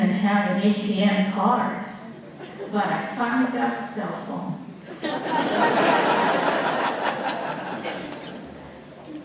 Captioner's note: laughter